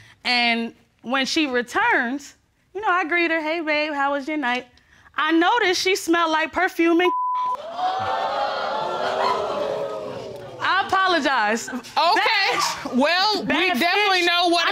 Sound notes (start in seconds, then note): 7.5 audience exclaims